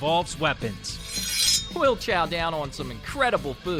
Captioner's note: drawn sword sound effect